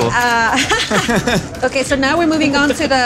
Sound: laughing

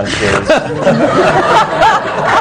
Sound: laughter

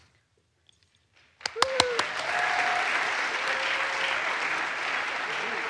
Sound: audience applauds

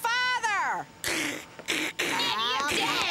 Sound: boys imitating gunfire

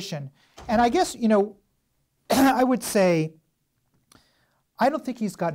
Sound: coughs

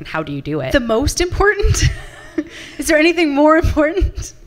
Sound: laughs

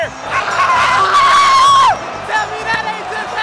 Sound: screaming

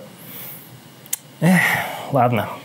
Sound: sigh

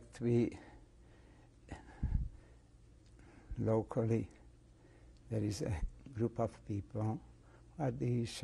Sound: pauses for 3 seconds

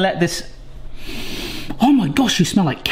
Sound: sniffs

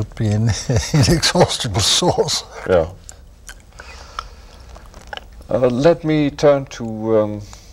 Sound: laughter

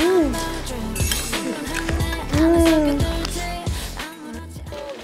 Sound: everybody eating

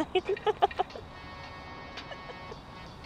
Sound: Louise laughs

